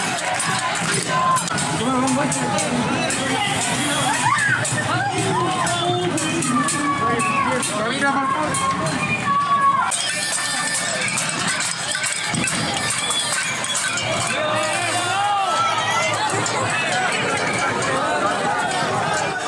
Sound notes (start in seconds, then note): 6.2 crowd screams